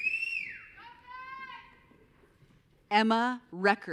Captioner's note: audience cheering; faintly speaking